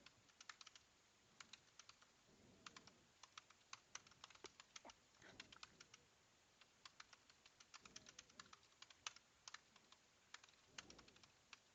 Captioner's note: keyboard clicking